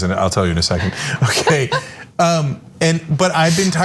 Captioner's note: laugh